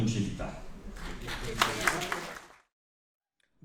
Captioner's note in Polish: oklaski